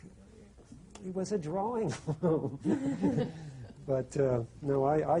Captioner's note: laughter